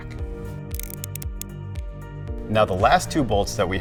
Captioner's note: words clicking